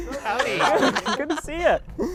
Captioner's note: all laughing